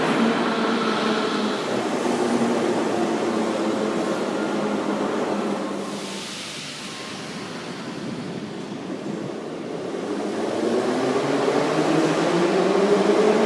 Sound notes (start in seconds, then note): 0.0 arrival of train at the station; 1.6 arrival of another train at the station